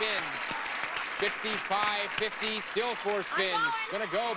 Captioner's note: audience applauding